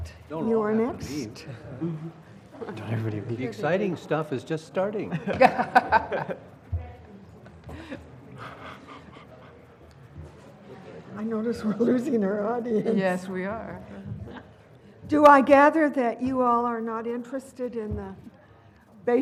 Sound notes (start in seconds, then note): 5.4 laugh